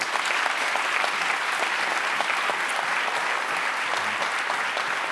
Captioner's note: audience applauds